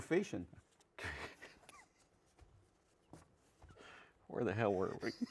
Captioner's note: chuckles